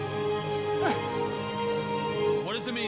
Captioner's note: grunting